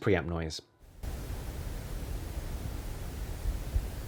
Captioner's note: preamp noise